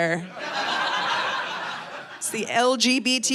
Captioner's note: audience laughing